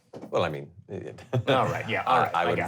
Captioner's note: chuckling